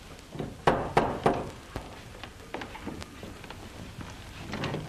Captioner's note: knocking at door